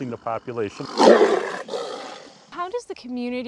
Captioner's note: roaring